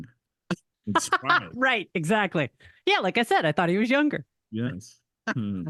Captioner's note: laughs